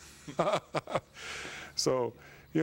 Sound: laughs

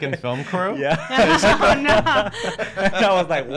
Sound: laughing

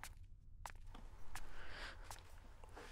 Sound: footsteps

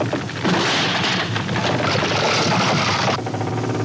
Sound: tram crashing

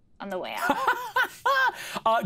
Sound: laughing

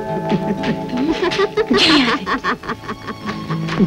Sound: laughing

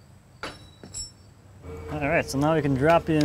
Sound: metal clashing

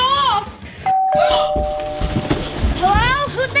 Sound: doorbell ringing

